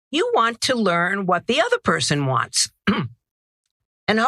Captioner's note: cough